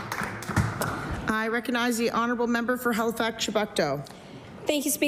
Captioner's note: applause